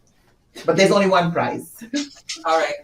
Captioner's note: chuckles